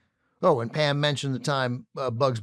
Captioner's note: none